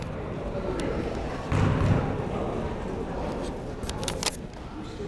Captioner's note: people talking in the crowd